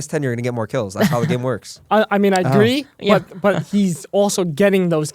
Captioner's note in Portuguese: risos